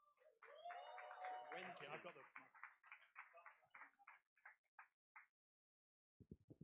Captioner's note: applause